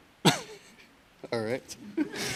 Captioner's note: chuckles